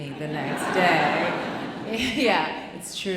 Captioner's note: audience laughing loudly